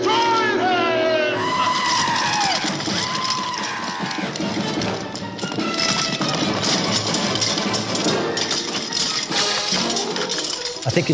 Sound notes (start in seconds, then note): 2.1 yelling; 5.0 dramatic music; 7.9 swords clanking